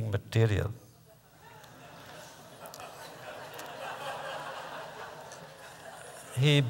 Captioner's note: laughter